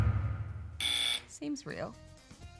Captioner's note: buzz!